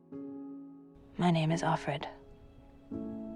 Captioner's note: voiceover